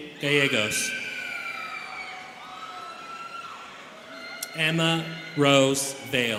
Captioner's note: students cheering